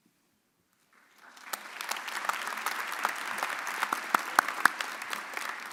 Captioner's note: audience applauding